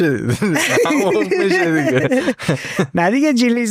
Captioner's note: laughs